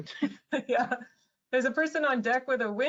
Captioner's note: laughs